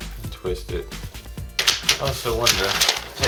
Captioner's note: paper crinkles